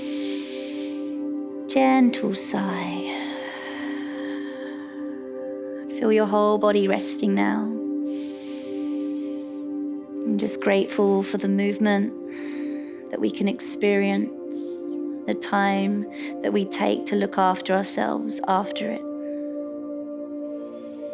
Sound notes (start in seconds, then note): 0.0 inhales; 3.1 sighs; 8.0 inhales